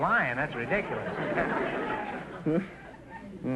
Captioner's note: audience laughter